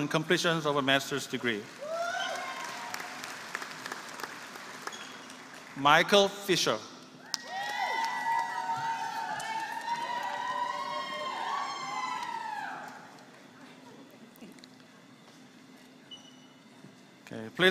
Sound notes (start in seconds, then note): 1.4 applause